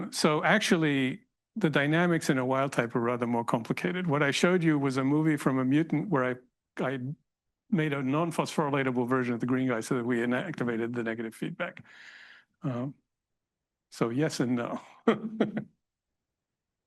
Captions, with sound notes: So, actually, the dynamics in a wild type are rather more complicated. What I showed you was a movie from a mutant where I made a non-phosphorylatable version of the green guy so that we inactivated the negative feedback. So, yes and no (laughs).